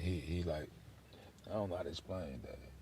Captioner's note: none